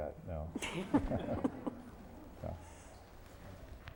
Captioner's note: laughter